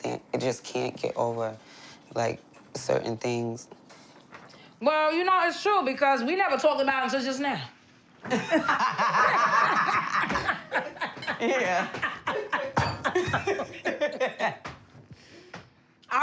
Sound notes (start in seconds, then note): 8.2 laughter; 11.8 laughter continues